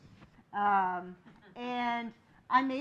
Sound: laughing

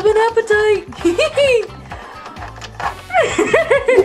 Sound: Shaggy laughs; Scooby laughs

